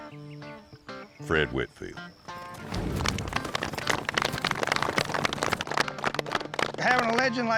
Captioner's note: hoofbeats approaching